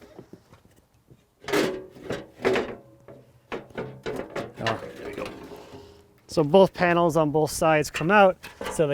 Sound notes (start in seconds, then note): 1.4 metal clunking